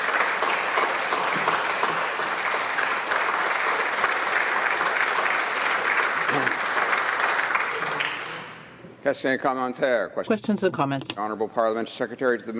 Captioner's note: applause